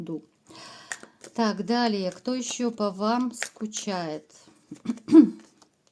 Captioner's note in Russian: откашливается